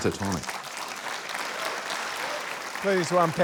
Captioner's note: laughter, cheering, applause